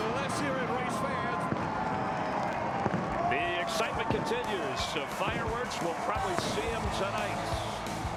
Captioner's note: cheers and applause